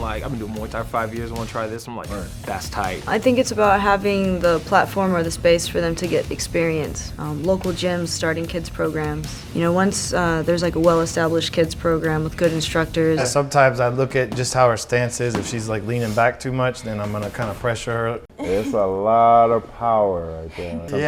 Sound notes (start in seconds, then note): 18.0 punch thudding